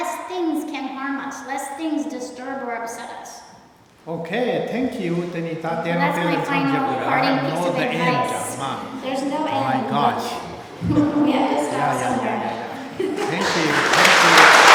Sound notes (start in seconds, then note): 5.3 speaking tibetan; 13.1 applause